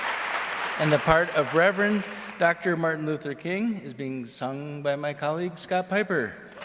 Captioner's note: applause